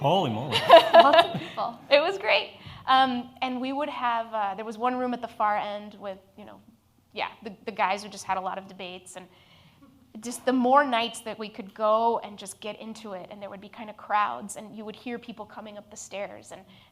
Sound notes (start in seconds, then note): 0.5 laughs